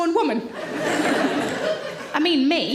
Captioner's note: audience laughs